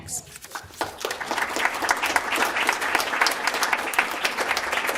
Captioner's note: applause